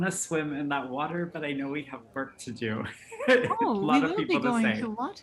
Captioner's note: laughs